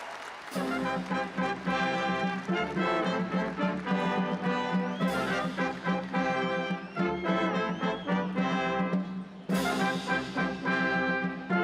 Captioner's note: cheers and applause